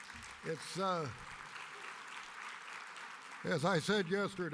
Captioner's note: applause